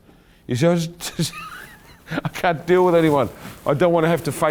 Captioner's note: laughing